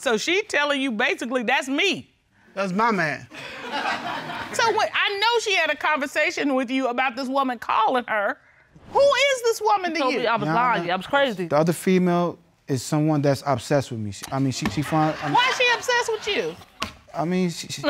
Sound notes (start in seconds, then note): 3.4 audience laughing